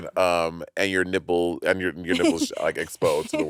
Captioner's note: laughing